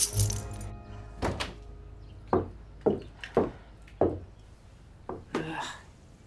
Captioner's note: keys jingle; door opens, footsteps